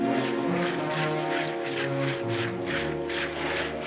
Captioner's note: saws scraping